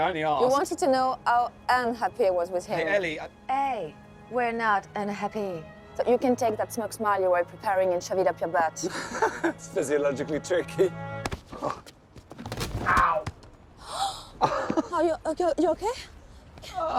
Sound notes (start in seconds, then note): 8.8 Tom laughing; 13.8 Eloise gasping